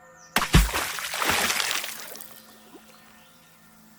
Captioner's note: water sloshing